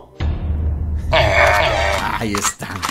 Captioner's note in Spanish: Sonido de aldeanos molestos